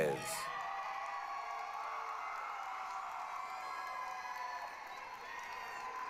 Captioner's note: applause, cheering